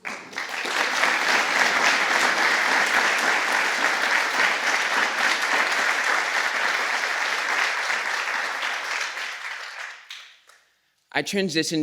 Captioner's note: applause